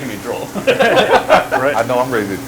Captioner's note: all laughing